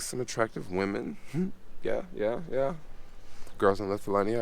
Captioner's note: chuckles